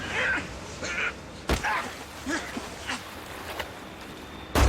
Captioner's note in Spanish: Quejidos